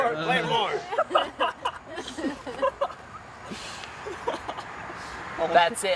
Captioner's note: group laughing